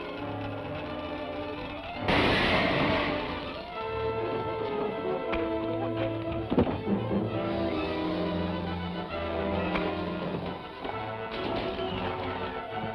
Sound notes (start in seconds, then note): 2.1 glass shatters; 4.1 dramatic music